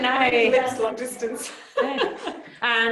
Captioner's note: laughter